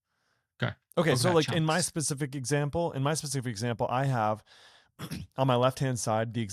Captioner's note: clears throat